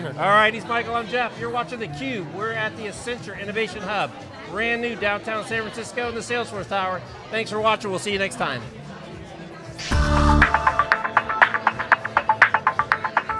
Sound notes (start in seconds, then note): 7.4 people chatting; 9.8 intense techno music